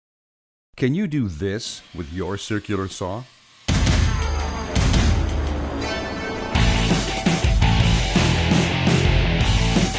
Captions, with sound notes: - [Voiceover] Can you do this with your circular saw? (exciting music)